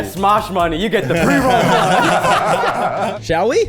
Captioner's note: people laughing